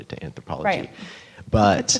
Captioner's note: laughing